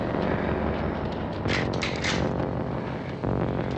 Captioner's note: rifle cocks